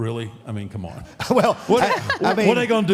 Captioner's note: Michelle laughs